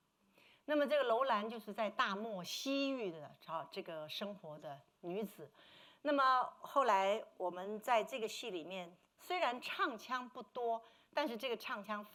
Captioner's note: speaking Mandarin